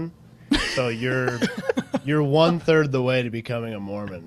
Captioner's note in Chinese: 笑声